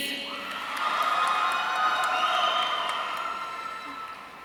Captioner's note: audience cheering